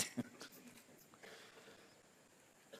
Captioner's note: laughs